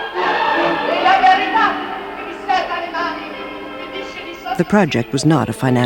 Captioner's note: speaks in foreign language